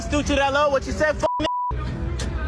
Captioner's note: beep